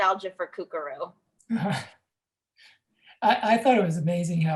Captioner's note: laughs